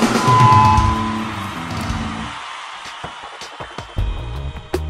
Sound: audience applauding

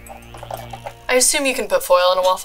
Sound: closing waffle iron

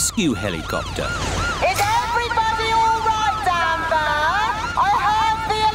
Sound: over megaphone

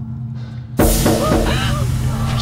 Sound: knocking on door

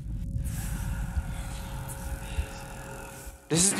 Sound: breathing and whispering

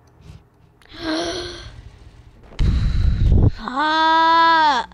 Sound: gasps

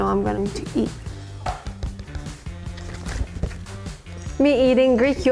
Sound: funky upbeat music; pencil tapping

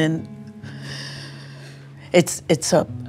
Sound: Epatha sighing

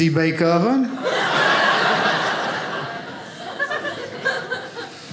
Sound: audience laughing

